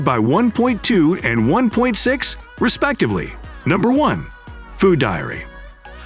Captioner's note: encouraging